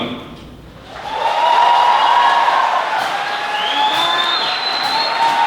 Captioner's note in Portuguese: plateia aplaudindo